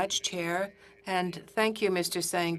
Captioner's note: speaking in French